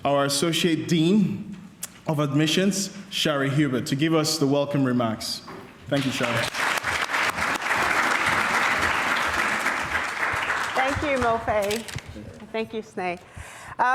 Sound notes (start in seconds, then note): 5.9 applause